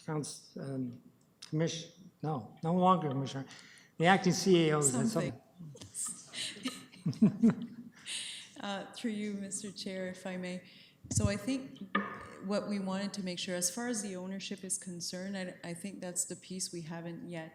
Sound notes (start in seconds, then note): 5.9 laughter; 10.7 laughs